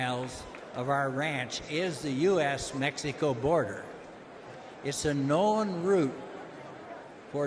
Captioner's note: applause